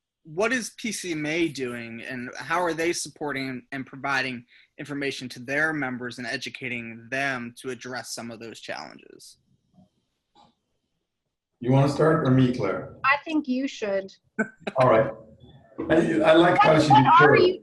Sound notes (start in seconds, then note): 14.4 laughs